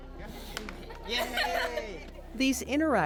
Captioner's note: kids cheering